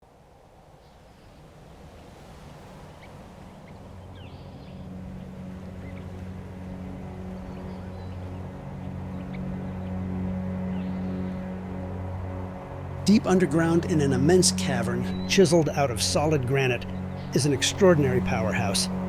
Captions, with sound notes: [BIRDS CHIRPING] [SOLEMN MUSIC] Deep underground in an immense cavern, chiseled out of solid granite, is an extraordinary powerhouse.